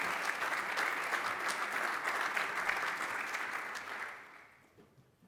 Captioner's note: applause